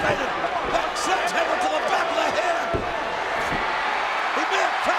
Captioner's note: crowd cheering